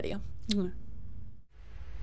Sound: kiss

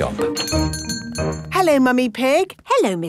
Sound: doorbell chiming

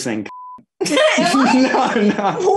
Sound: laughing

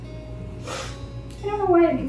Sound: sniff

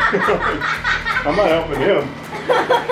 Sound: laughs

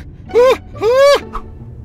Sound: screams

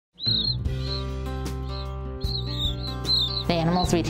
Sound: squeaking

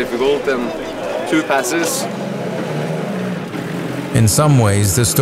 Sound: engine purring

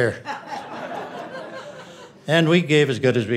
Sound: audience laughing

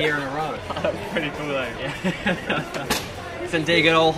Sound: laughs

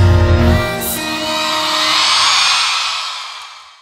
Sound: crowd cheers

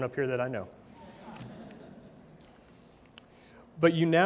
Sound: audience laughs

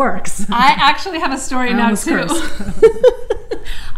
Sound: laughs

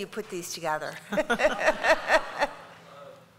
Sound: laughter

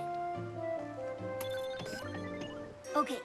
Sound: electronic Beeping

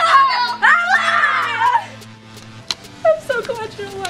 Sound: excited shouting

